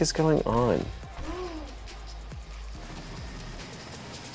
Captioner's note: gasps